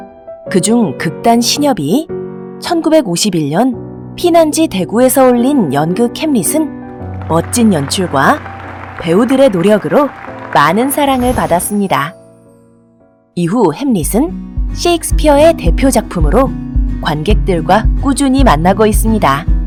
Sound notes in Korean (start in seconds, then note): 6.9 박수 소리 효과음; 10.8 반짝이는 효과음; 17.0 밝은 음악